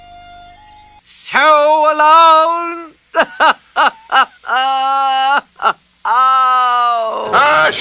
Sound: pathetic sobbing

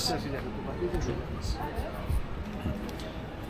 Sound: people chattering

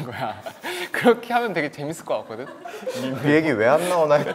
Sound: laughing

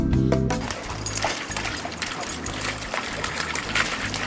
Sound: splashing

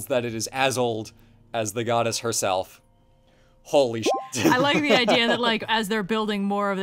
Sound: laughs

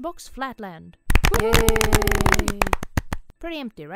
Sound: applause and cheers

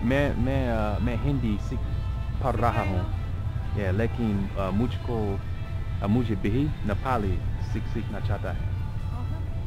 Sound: hindi

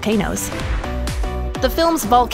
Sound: air whooshing

